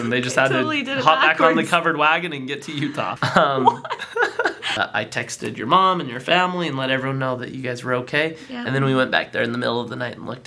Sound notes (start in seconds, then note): 2.7 laughs